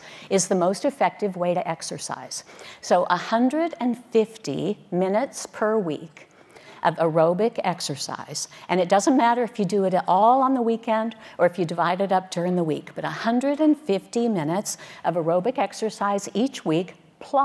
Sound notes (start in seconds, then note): none